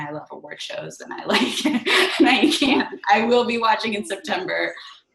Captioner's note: laughs